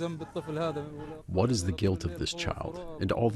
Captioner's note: through translator